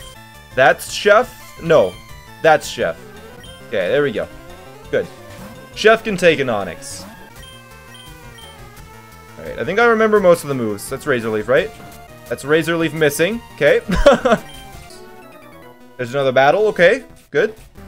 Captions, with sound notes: That's Chef? No, that's Chef. Okay, there we go. Good. Chef can take an Onix I think I remember most of the moves. That's razor leaf, right? That's razor leaf missing, okay [laughs] There's another battle, okay, good